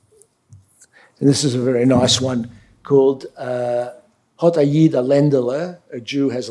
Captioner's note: speaking yiddish